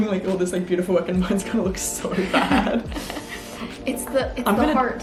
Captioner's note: laughs